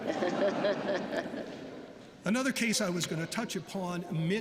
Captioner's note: laughter